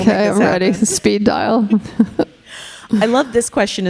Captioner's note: chuckling